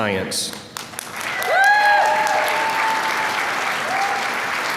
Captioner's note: applause